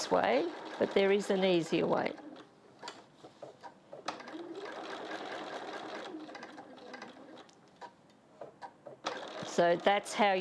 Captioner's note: sewing Machine Sounds